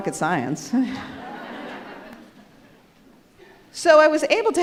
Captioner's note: audience laughs; chuckles